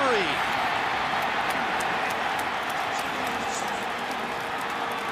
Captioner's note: cheering